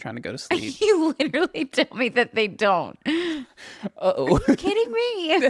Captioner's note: laughs